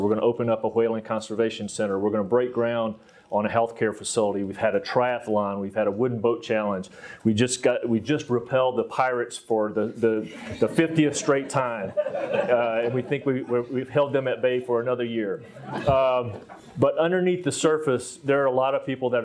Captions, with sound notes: we're gonna open up a whale conservation center, we're gonna break ground on a health care facility, we've had a triathlon, we've had a wooden boat challenge, we just repelled the pirates for the 50th straight time, and we think we've held them at bay for another year. (audience laughs) But underneath the surface there are a lot of people